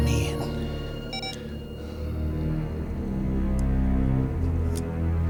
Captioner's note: camera beeps